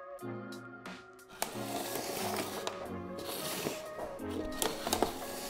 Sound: cardboard scraping

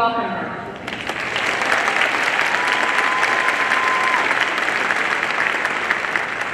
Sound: audience clapping and cheering

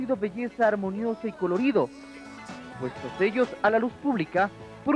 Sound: speaking Spanish; speaking Spanish

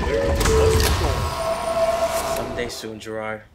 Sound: train doors whirring

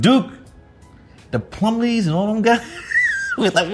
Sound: laughs

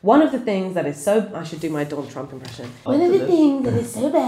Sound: Terrible Trump impression

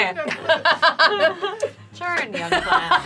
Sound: all laughing

